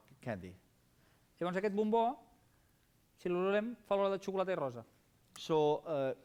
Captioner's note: non-english speech